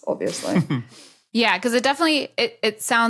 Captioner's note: snickers